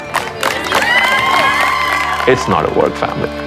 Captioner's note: all cheering